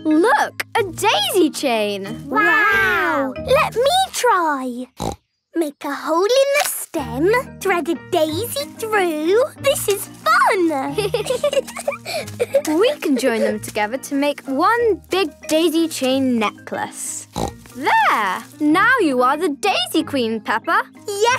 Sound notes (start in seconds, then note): 5.0 snorting; 10.8 giggling